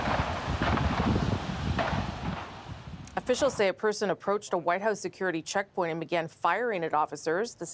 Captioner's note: shots fired